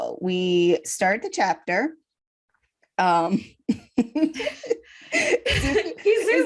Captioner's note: giggles